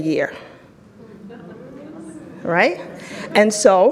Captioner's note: audience chattering